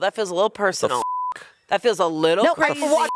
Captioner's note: beep